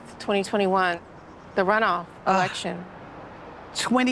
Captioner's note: sighing